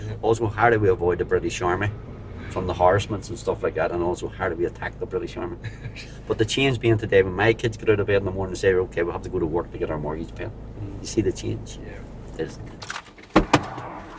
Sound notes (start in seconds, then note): 5.5 laughs